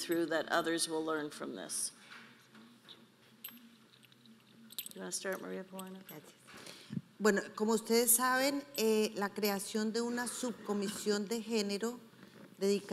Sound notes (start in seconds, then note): 7.4 speaking in foreign language